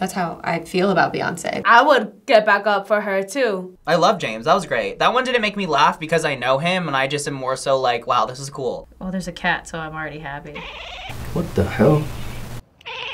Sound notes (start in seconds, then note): 10.5 cat chatters